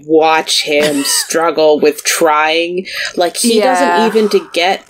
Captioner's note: laughs